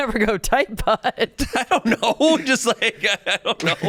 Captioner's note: laughs